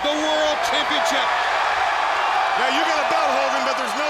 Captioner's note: audience cheers